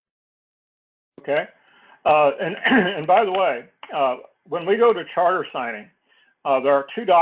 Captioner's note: cough